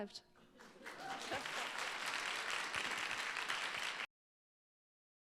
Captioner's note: audience applauding